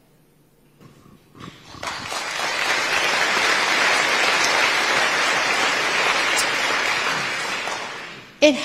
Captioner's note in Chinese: 台下熱烈鼓掌